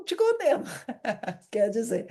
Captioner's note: laughter